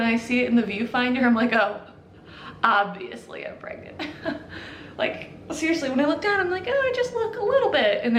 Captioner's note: chuckle